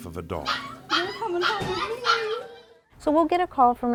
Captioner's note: dogs barking